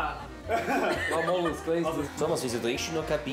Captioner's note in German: Lachen